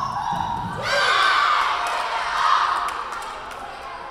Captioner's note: Lions cheering